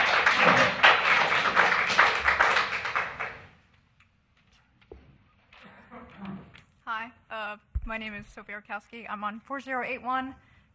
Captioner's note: applause